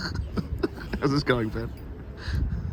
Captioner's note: chuckling